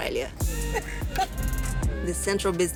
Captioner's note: laughter